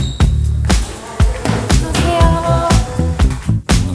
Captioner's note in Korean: 긴장되는 발걸음